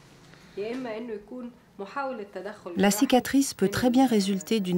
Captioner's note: Arabic spoken audio